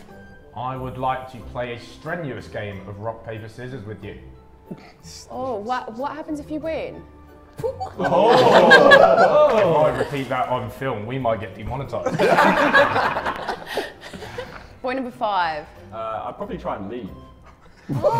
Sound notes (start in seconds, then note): 7.6 Sidemen laugh; 12.1 everyone laughs; 17.5 Sidemen laugh